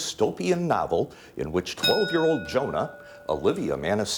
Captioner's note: ding